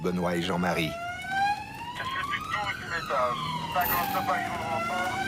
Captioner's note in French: Audio parlé en français